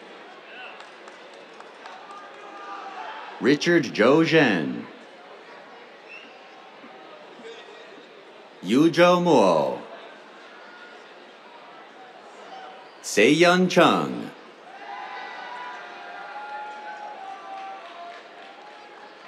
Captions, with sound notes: [APPLAUSE] Richard Zhouren. [WHISTLES] Yuzhou Mo. [CHEERS] Sehyun Chung. [CHEERS]